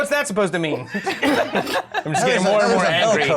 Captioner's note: laughter